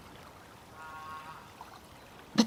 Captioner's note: approaching voice